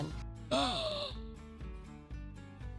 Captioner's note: gasps